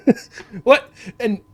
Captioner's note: laughs